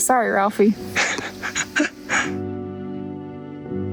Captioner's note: chuckles